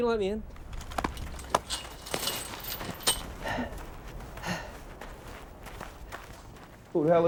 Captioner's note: gate clanking; man panting